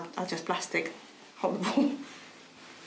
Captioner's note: chuckles